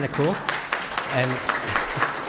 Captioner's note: applause